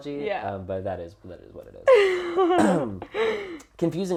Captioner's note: laugh